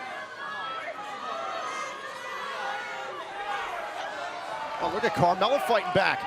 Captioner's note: crowd cheering